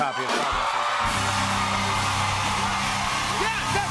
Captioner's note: cheers and applause